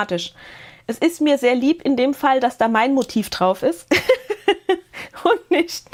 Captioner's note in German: Gelächter